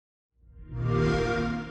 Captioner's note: xbox sound